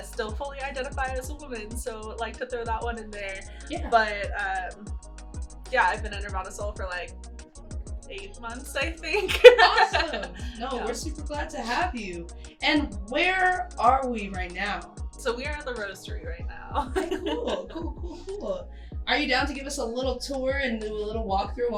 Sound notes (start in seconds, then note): 9.1 laughs